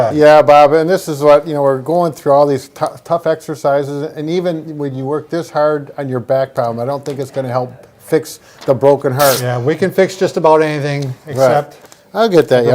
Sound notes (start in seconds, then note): 9.1 paper tearing